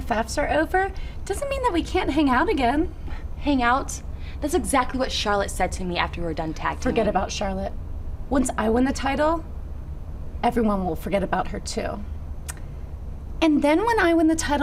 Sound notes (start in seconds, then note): none